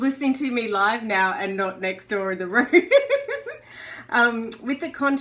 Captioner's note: laughter